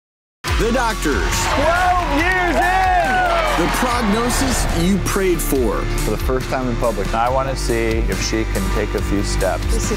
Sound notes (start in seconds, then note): 2.8 cheering